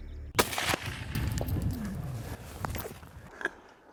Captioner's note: gunshot